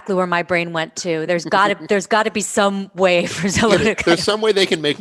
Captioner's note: laughter